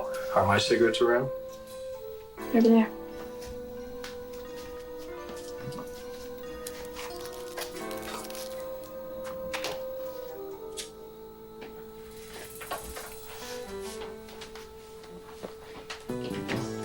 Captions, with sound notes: - Oh, are my cigarettes around? - They're over there. (dramatic music) (lighter clicking) (dramatic music)